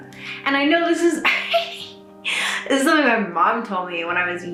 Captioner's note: laughs